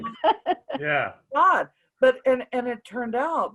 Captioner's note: laughs